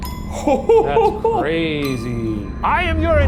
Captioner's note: laughing